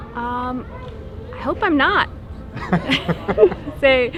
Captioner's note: laughs